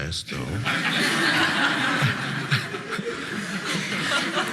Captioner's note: audience laughing